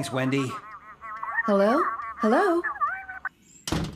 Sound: customers Chattering

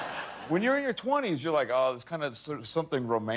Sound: laughter

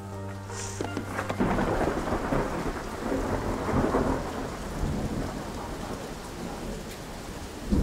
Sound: pensive music playing; rain pouring; thunder roars

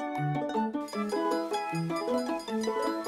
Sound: sfx: train bell

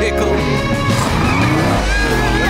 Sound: accelerating

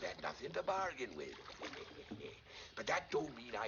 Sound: chuckles

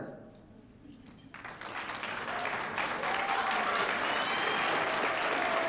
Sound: students clapping

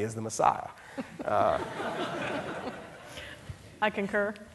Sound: audience laughing

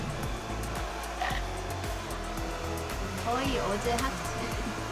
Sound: nom nom

